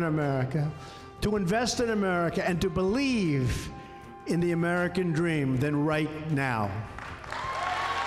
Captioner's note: cheers, applause